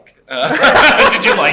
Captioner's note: laughter